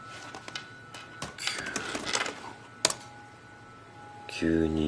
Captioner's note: whispers